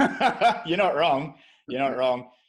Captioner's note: laughs